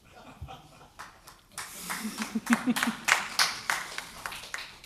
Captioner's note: applause